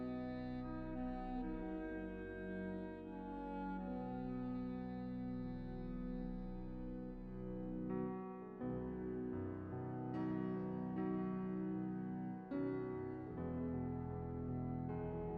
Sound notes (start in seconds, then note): none